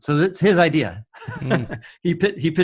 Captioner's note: men laughing